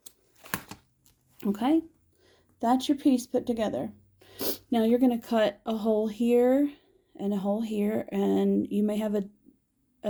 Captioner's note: sniffle